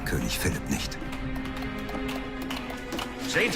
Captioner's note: applause